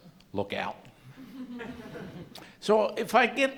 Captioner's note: laughter